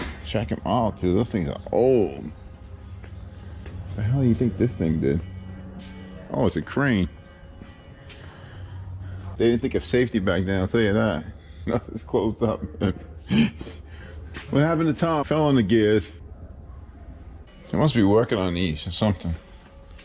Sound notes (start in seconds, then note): 12.4 laughing